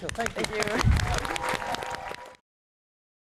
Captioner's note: applause